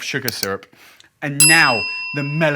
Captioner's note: bell rings